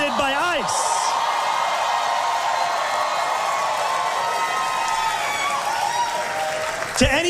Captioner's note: massive crowd cheer